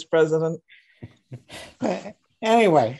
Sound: laughing

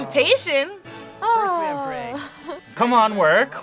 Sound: laughs

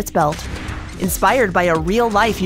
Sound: air whooshing

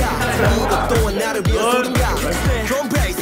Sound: haha

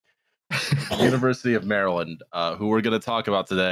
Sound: laughs

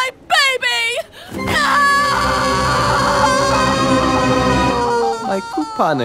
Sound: monsterous grumbling; Linda and a man in the background wails 'nooo'; man yelling

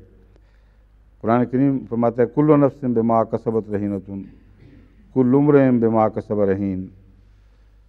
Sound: Arabic

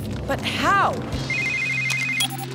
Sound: phone ringing

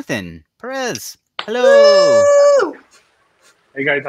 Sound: cheering

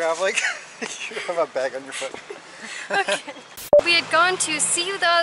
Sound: laughter

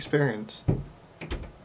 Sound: house creaking

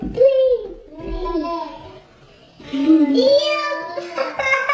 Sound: children babbling

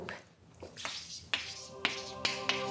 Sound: chalk scratching

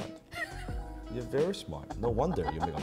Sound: laughing

